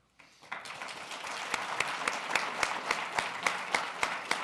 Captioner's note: applause